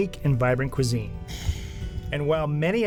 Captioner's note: exhaling